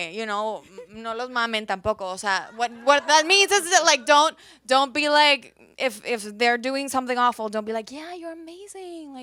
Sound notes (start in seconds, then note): 2.5 audience laughs